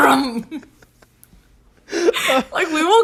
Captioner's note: both laugh